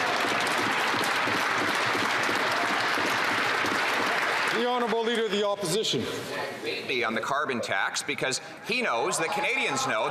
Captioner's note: some Applause